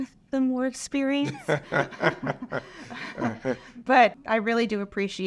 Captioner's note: both laughs